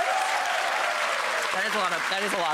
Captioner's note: audience applauding